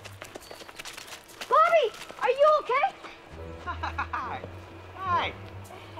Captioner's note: laughing